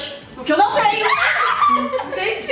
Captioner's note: screaming and sudden